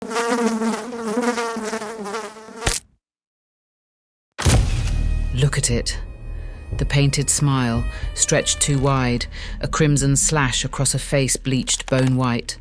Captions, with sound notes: (fly buzzing) (fly splatting) (creepy music) Look at it. The painted smile, stretched too wide, a crimson slash across a face bleached bone-white.